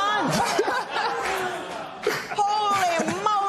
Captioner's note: laughter